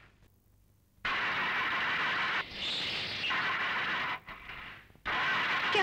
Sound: car engine not starting

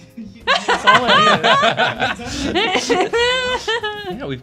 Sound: laughter

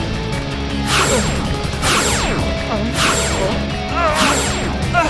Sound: lasers firing; Shakes groaning

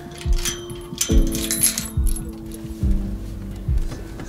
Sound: gate rattling

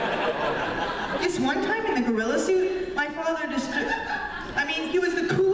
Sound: laughter; laughter

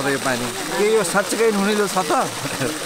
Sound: chuckles

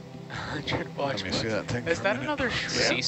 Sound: laughing

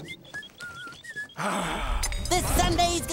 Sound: whistling; sighing

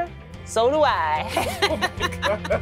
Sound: laughter

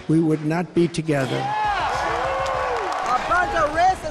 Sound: crowd Cheers

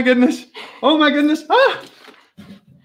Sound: laughing; exclaiming

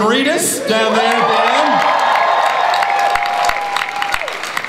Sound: audience applauds and cheers

